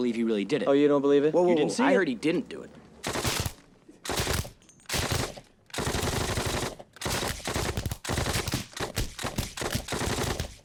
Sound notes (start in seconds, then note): 3.4 rapid gunfire